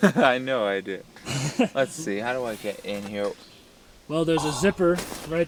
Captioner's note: chuckles